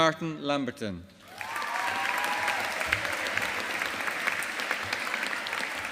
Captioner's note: audience applauding